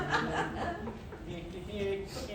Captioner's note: laughter